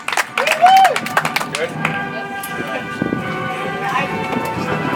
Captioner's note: audience applauds; soft music